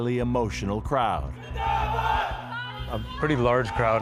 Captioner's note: crowd shouting